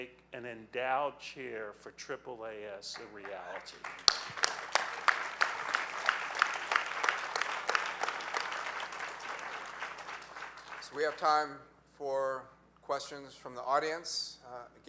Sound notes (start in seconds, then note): 2.9 audience applauding